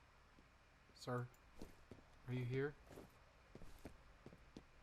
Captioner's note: wind